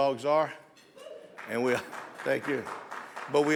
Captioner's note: audience members applaud; audience members cheer